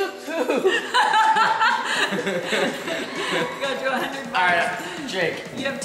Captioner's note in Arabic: يضحك الجميع